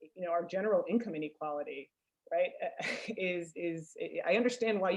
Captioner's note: laughs